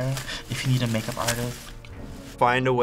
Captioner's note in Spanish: susurrando